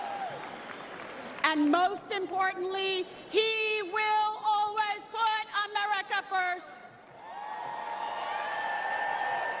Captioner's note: applause